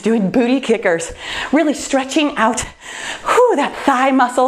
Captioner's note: sighs